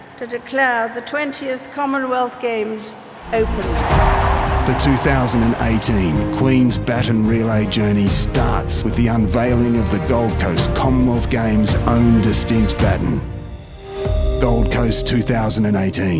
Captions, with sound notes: pleasure to declare the 20th Commonwealth Games open! [Voiceover] The 2018 Queen’s Baton Relay journey starts with the unveiling of the Gold Coast Commonwealth Games own distinct Baton. Gold Coast 2018.